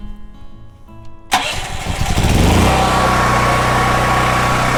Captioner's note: ! Generator Running !